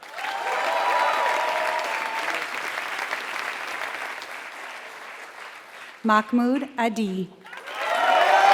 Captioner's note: applause